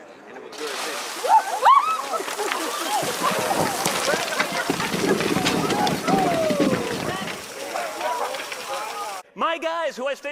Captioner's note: light screaming